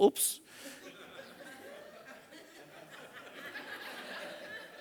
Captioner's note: audience laughing